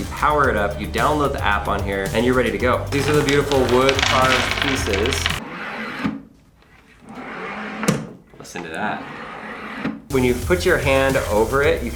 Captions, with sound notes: you power it up, you download the app on here, and you're ready to go. These are the beautiful wood carved pieces. (wood sliding) Listen to that. When you put your hand over it,